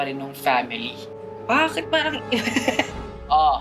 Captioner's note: chuckles